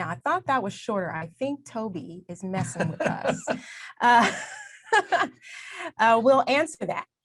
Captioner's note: both laughs